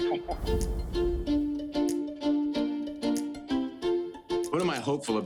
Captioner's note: laughs; image whooshing; upbeat instrumental music